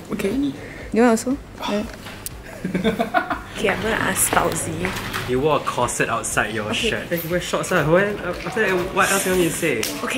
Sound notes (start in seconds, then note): 2.4 laughs